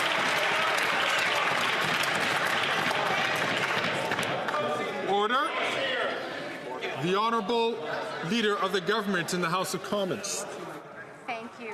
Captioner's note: some Applause